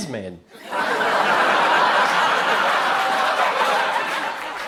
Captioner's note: crowd laughs